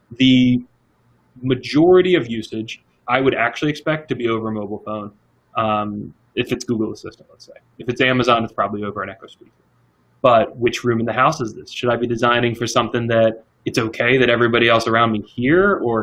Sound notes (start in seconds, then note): 9.3 murmuring softly